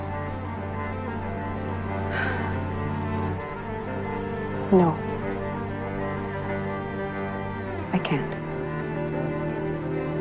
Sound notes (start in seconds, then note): 2.1 Grace sighs offscreen